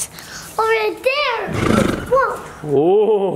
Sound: horse neighs

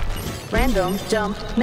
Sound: robot voice

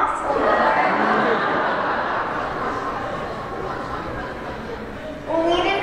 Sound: laughter

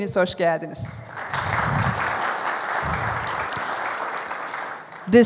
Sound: applause

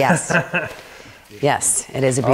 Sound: laughing

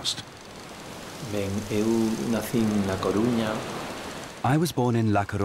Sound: he speaks Spanish

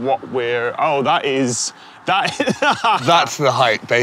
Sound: laughs

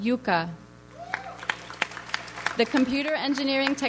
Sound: audience applauds

